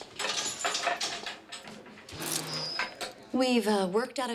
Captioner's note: gate clanks